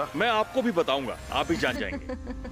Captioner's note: chuckles